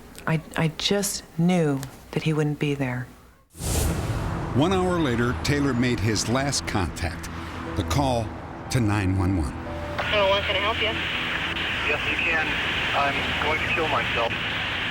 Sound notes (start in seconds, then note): 9.7 on phone; 11.5 on phone